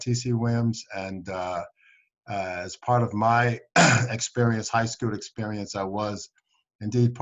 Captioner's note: coughs